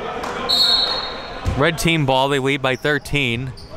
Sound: whistle blows

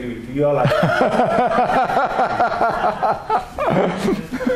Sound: laughter

